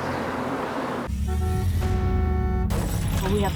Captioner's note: horn honks, glass shatters